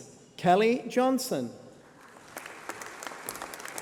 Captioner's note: applause